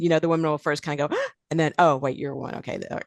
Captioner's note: gasping